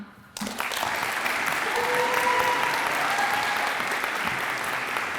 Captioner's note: audience applauds and cheers